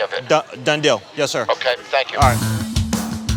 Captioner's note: on phone